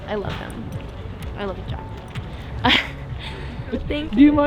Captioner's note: lips smacking; laughing